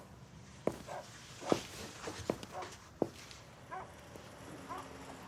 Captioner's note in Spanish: Ladridos